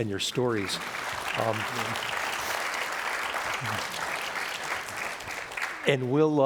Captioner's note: audience applauding